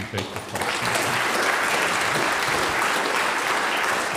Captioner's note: audience applauds